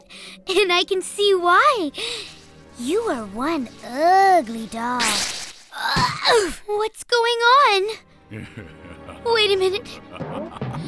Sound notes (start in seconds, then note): 5.4 thud; 5.8 grunt; 8.2 low snickering